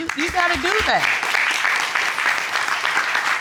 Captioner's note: crowd applauding